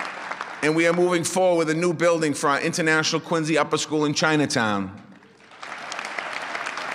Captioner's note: applause